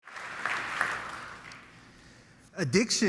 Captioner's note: crowd applauding